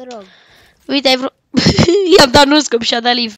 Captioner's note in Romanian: eu razand